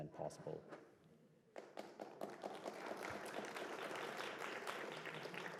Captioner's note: applause